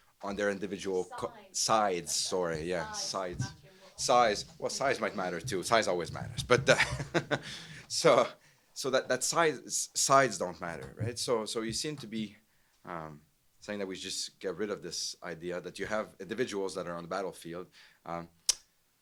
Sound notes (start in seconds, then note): 7.4 laughs